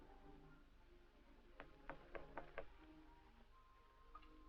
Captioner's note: knock at door